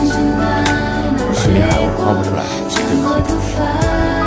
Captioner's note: calmly